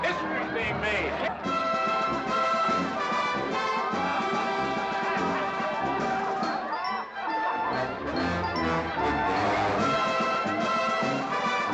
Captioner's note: amused crowd noises